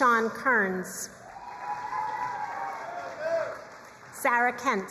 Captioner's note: crowd cheering and applauding